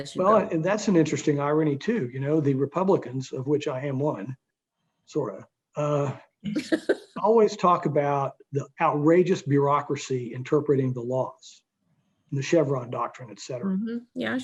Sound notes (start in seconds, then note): 7.2 laughing